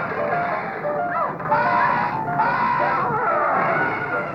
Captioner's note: all screaming